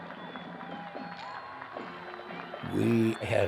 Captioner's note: crowd cheering